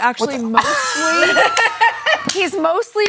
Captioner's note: Wil laughs